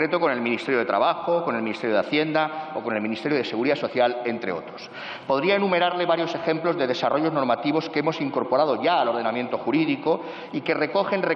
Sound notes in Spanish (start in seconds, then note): none